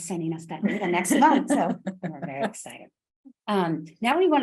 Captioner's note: laughs